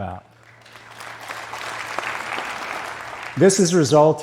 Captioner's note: applause